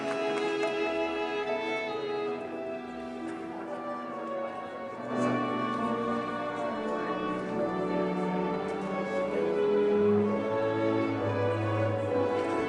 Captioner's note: applause